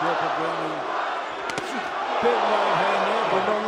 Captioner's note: cheers